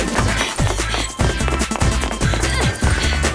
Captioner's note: grunt; gasping